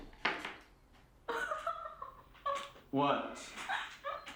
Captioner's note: Cathy laughing